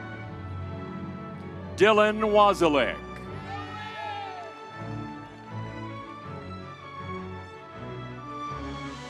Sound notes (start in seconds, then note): 3.3 crowd cheering